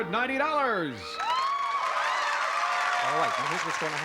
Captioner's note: cheering